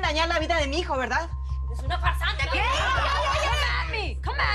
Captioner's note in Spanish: Gritos y exclamaciones